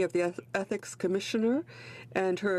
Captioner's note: speaking French